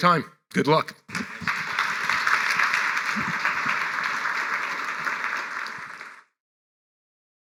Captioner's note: applause